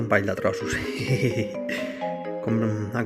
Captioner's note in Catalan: Riu